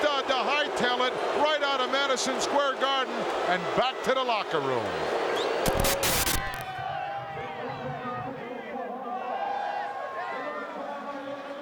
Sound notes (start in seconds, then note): 5.3 attendee whistling; 5.6 static crackling